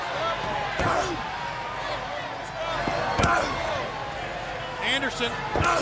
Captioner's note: wrestlers grunting; blows thudding